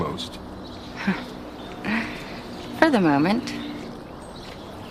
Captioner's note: chuckling